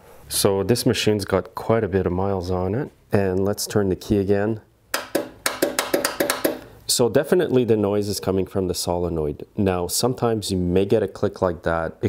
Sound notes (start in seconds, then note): 5.3 switch flipping